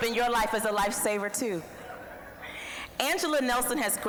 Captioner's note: audience chuckling